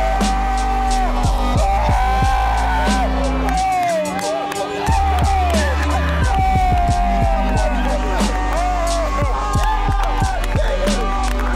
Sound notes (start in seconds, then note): 5.1 yelling continues; 7.1 cheering